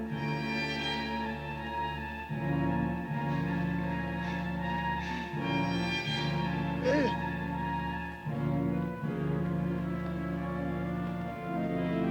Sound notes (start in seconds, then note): 6.8 Red Hawk grunts